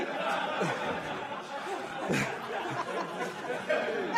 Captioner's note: laughter